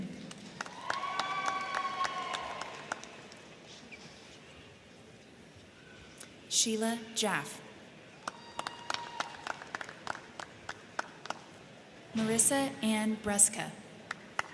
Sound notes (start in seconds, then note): 0.0 crowd clapping; 0.1 crowd cheering; 8.2 crowd cheering; 8.2 crowd clapping; 14.0 crowd clapping; 14.3 crowd cheering